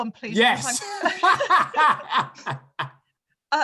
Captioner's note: laughter